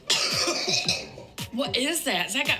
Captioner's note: coughing